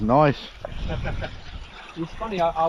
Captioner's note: chuckles